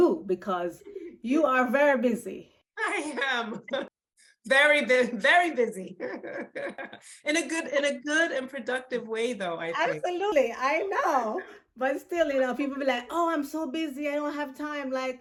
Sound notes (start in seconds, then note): 2.8 chuckles; 6.3 laughing